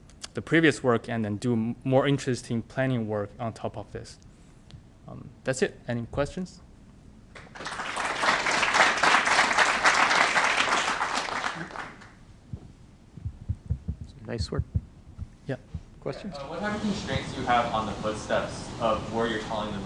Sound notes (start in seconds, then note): 7.3 applause